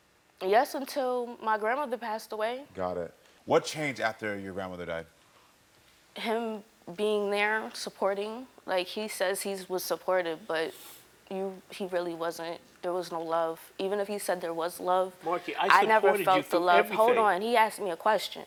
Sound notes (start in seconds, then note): none